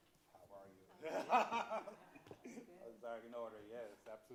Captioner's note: laughs